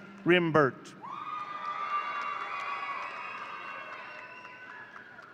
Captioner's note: audience cheering